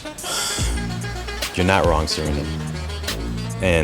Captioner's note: sighs